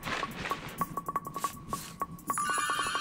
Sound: cloak rustling; whimsical music

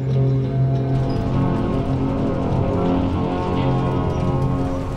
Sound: wood creaking

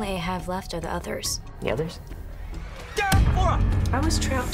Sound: screams

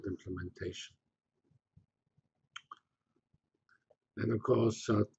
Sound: pause

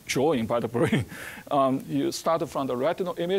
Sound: chuckling

